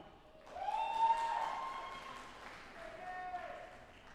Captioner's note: audience applauding